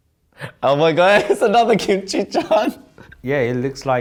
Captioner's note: laughs